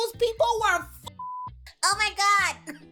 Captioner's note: beep